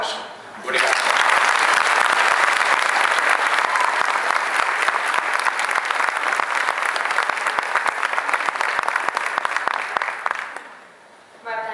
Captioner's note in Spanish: Aplausos